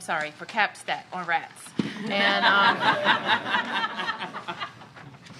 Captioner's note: laughter